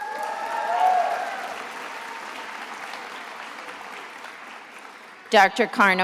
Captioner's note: attendees applauding and cheering